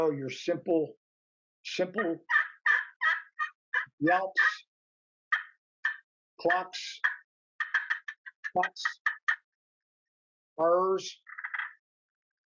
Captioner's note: turkey call sounds